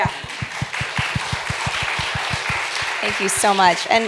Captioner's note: applause